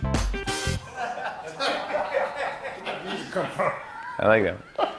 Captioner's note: laughter